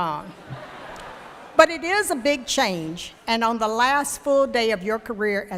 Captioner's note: laughter